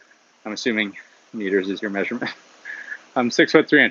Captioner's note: chuckles